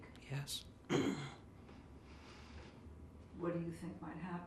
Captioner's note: clears throat